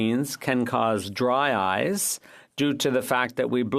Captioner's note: speaking French